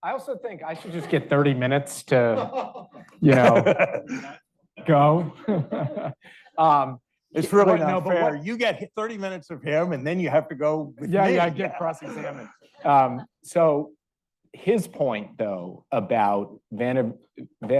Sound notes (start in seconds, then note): 2.8 audience member laughing; 4.8 laughs